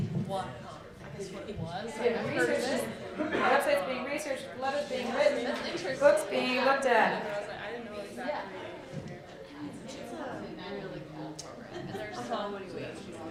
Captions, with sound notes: We have websites being researched, letters being written, books being looked at. (excited conversations)